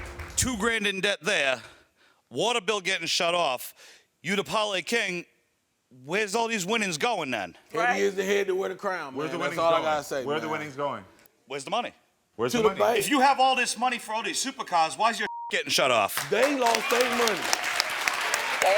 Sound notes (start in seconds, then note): 15.2 beep; 16.1 audience applauds